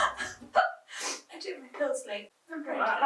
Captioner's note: laughing; hiccups